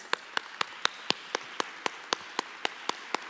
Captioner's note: applause